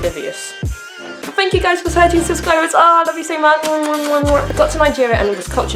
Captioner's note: kissy kissy sounds